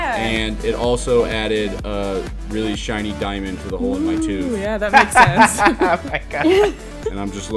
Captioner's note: laughter